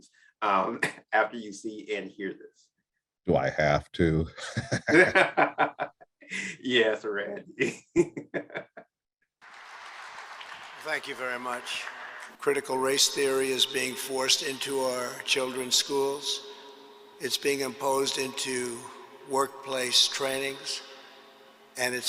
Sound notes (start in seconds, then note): 4.2 laughs; 9.4 audience applauding